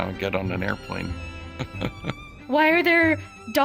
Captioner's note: chuckling